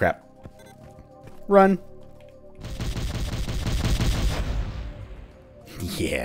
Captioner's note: massive chain of explosions